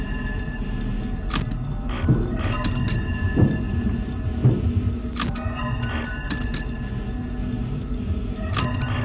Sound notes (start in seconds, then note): 2.0 banging